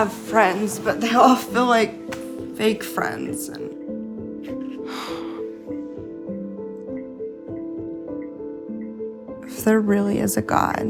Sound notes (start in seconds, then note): 4.4 sighs